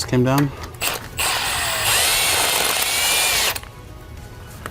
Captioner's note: tool whirring